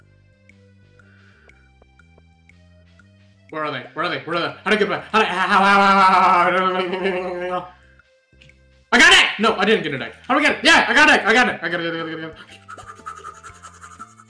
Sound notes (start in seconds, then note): 3.6 panic